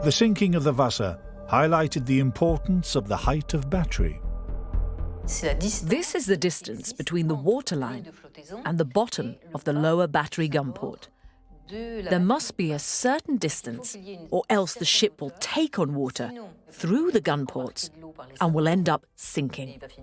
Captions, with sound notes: The sinking of the Vasa highlighted the importance of the height of battery. - [Voiceover] This is the distance between the water line and the bottom of the lower battery gun port. There must be a certain distance or else, the ship will take on water through the gunports and will end up sinking.